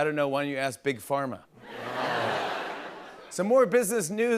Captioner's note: laughter